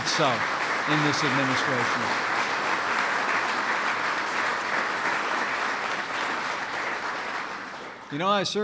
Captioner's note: applause